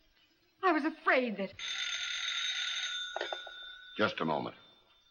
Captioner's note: phone rings